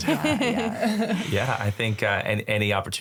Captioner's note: all chuckle